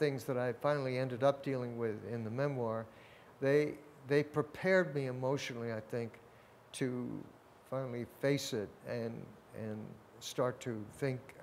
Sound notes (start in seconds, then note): none